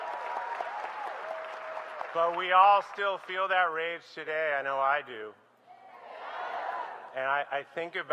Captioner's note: applause